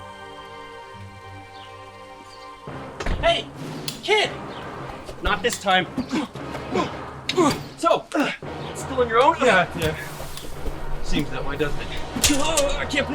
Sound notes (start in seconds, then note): 6.3 arms whooshing